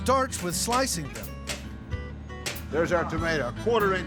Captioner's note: chopping sound